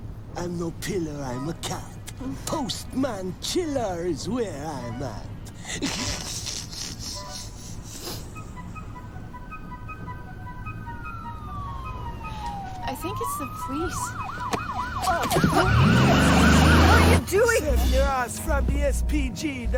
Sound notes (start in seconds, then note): 5.6 snickers; 8.7 siren wailing